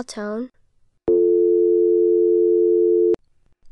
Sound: dial tone plays

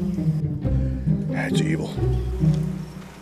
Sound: whispers

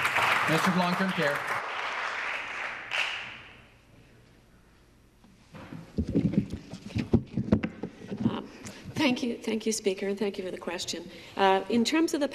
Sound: applause

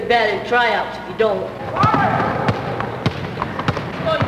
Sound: basketball bouncing

